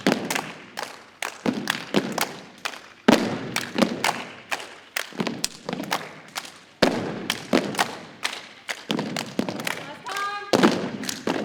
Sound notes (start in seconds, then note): 5.3 rhythmic thumping and clapping continues; 11.2 rhythmic thumping and clapping continues